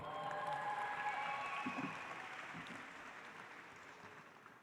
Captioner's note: audience applauds